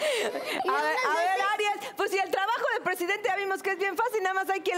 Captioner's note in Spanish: Risas